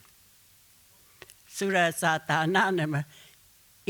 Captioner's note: speaking Comanche